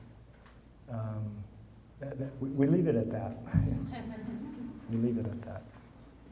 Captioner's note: all chuckling